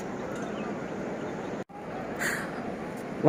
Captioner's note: sound of sea waves